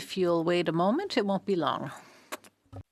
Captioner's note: speaking French